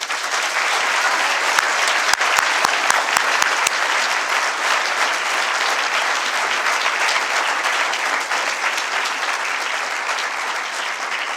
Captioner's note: applause